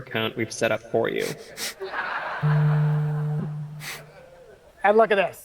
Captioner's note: and audience laugh, phone vibration is heard